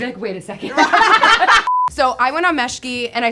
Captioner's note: all laughing